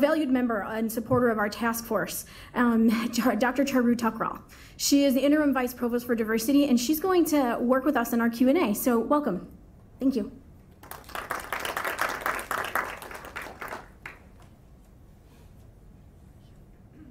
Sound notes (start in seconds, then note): 10.7 applause